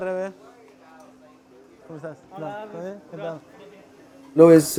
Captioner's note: speaks Spanish